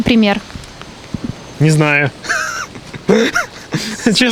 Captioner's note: laughs